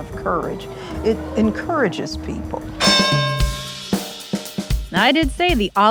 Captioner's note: boxing bell dings